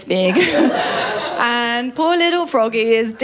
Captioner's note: laughter